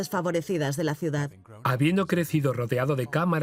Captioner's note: voiceover